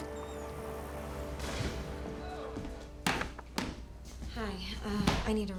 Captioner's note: door slams; footsteps clicking; door creaks open and closed